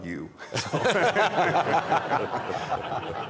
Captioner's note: laughter